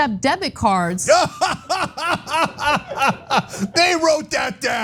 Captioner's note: laugh